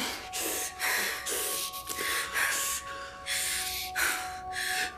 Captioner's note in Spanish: Braulio jadea